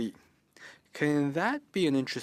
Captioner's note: speaking in French